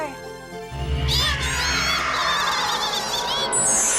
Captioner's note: squeaking